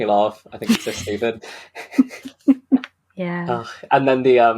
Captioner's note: laughs